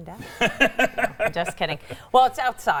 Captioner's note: laughs